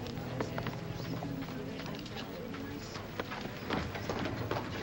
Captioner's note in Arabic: ثرثرة ناعمة; عربة تهتز